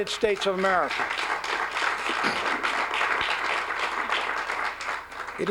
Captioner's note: applause